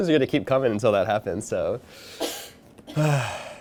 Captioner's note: sighing